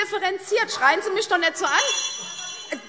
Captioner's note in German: Fortgesetzte Zurufe; Glockenzeichen - Fortgesetzte Zurufe